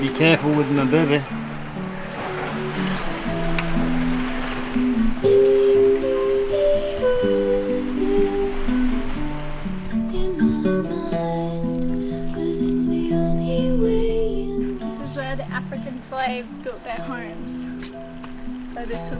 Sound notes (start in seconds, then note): 2.4 waves crash; 5.1 melancholy music